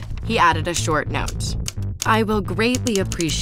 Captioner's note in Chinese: 打字機按鍵的聲音